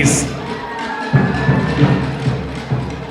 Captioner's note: applause